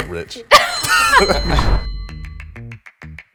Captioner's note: all laughing; bell dings; upbeat music